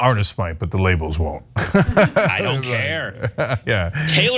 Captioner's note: laugh